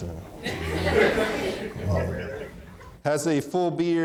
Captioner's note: audience laughing